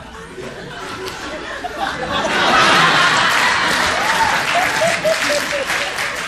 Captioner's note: crowd laughs